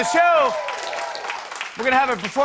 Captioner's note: cheers and applause